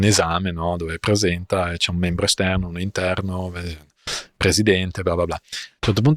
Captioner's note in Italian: sbuffare